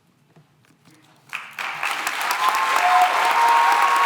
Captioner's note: applause